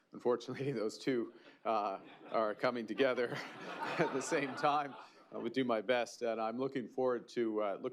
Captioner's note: laughter